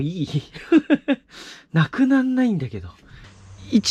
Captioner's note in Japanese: 笑い